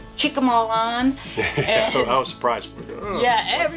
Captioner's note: laughing